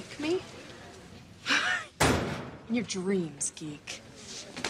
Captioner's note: chuckles